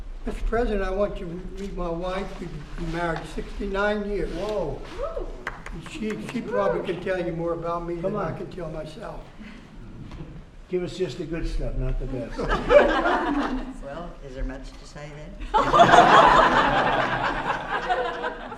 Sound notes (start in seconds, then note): 5.4 applause; 12.2 laughter; 18.3 laughter